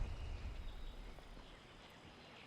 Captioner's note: bird chirp